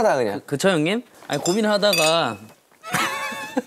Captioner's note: rummage